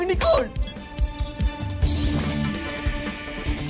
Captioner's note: system beeping; upbeat music playing